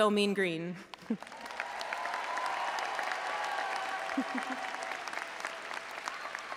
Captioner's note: audience applauding and cheering